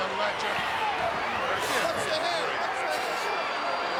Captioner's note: crowd yelling